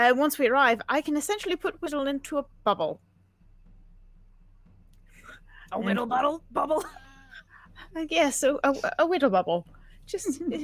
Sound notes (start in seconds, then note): 7.4 laughs